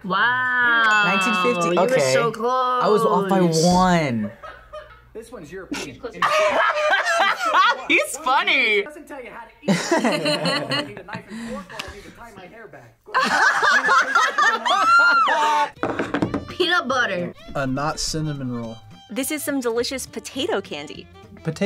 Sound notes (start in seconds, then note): 5.7 laughs; 9.7 both laugh; 13.1 both laugh